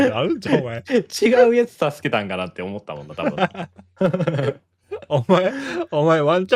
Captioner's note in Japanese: 笑い